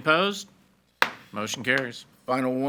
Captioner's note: gavel bangs